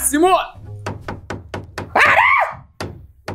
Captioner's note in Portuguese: barulho de martelo